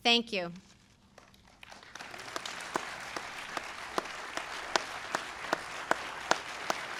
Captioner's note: applause